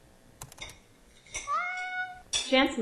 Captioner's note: cat meowing